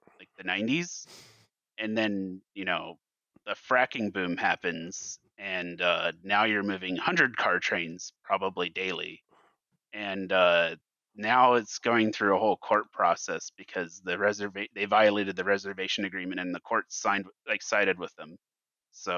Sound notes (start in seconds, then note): none